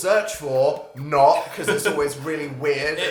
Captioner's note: laughs